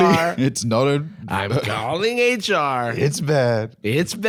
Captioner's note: Trump's cadence